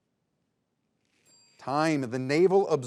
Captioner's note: bell ringing